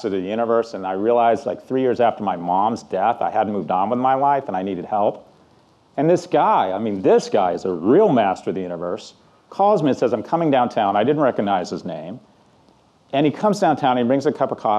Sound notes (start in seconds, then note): none